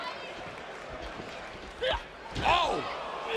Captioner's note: crowd chatter